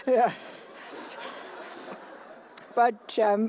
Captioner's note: laughter